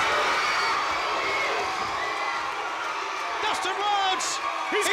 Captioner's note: crowd cheers